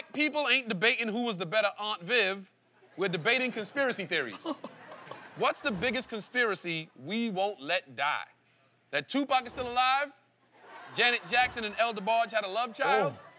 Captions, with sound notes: - When black people ain't debating who was the better Aunt Viv, we're debating conspiracy theories. - [laughing]